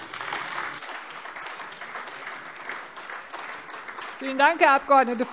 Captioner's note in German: Beifall AfD